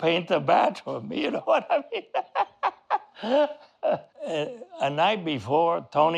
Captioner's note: laughing